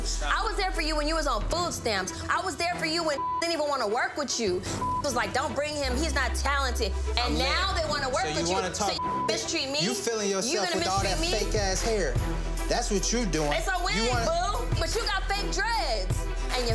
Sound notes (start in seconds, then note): 3.0 beep; 4.8 beep